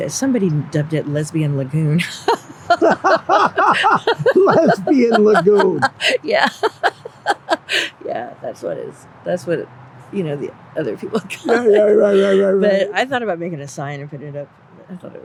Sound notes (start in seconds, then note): 2.0 both laughing